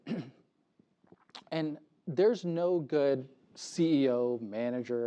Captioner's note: cough